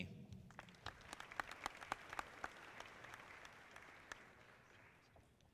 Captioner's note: audience clapping